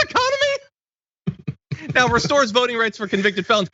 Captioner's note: laugh